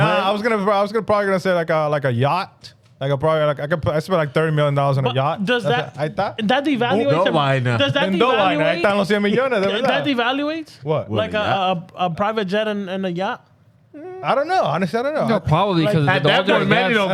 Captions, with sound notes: I was gonna probably gonna say like a yacht. Like I probably, I spent like $30 million on a yacht. Does that, is that the evaluation? Oh, no, why not? Does that evaluate? (Speaking In Foreign Language) Does that evaluate? What? Like a private jet and a yacht? I don't know, I understand, I don't know. Probably because of the whole point, man.